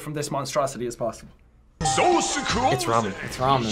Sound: ding

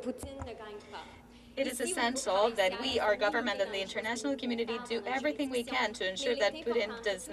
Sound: speaking French

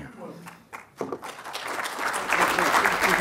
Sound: applause

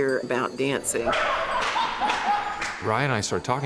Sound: laughing

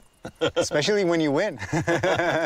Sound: laughs

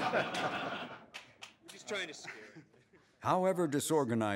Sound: all laughing

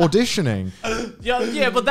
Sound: laughing

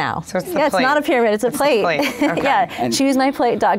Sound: laughs

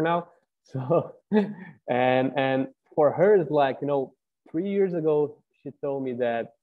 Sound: laugh

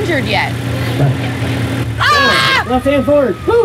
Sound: screams

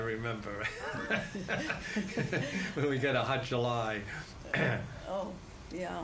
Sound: laughs

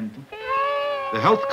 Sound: speaking Spanish; children crying

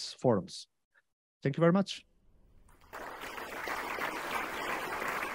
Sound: crowd clapping

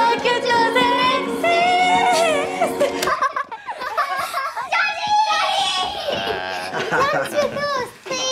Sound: girls giggle and scream

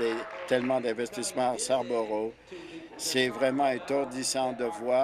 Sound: applause

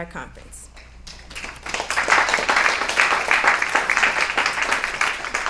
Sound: applause

